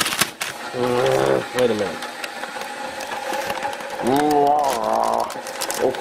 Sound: vigorous shaking sounds

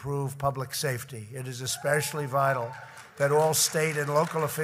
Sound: applause

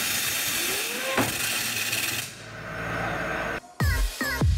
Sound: wheel whines rapidly and bangs; techno music

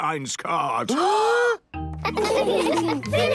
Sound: both gasping

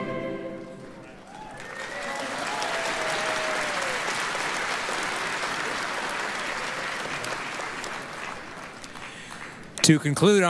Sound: applause, cheering

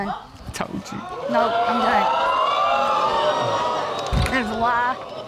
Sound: audience exclaims

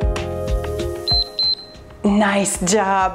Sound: timer beeps

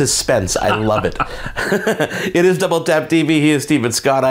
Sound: laughter

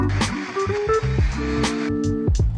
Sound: blender whirring; relaxed music

